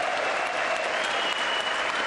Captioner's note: applause